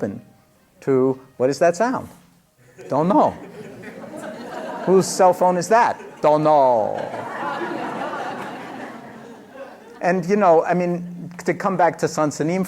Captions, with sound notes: to, what is that sound? Don't know! [laughter] Whose cell phone is that? Don't know! [laughter] And, you know, I mean to come back to Seung Sahn